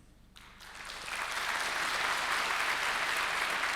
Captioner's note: applauding